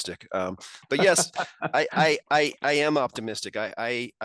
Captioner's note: laughs